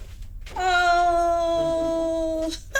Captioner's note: laughing